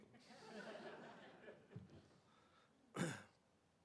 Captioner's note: audience laughing